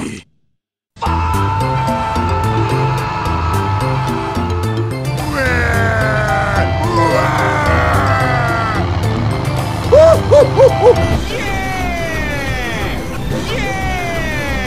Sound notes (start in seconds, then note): 5.2 crying